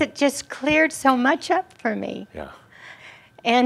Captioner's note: voice cracking